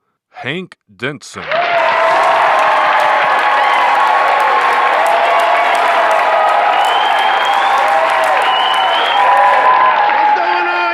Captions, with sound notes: please welcome Hank Denson. (hip-hop music) (audience cheering) (hip-hop music continues)